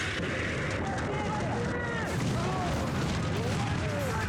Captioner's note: flames whooshing; people shouting